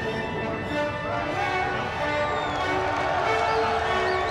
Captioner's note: crowd cheers